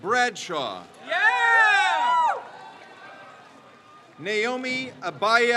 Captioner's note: crowd cheers